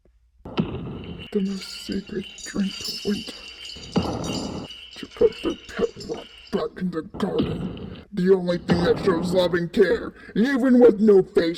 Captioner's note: almost a whisper